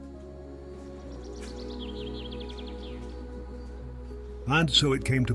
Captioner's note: gentle music continues; birds chirping